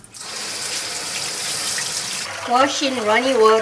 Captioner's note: water draining; water splashing